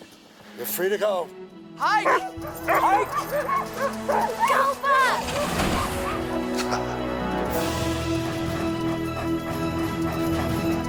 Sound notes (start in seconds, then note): 1.9 dogs barking; 2.0 Buck barking; 6.9 Bill chuckles; 8.1 vibrant music